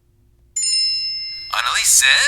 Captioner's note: device jingles